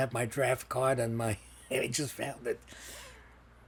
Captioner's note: laughing